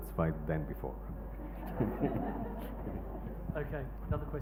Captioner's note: laughing